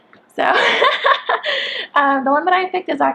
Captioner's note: laughs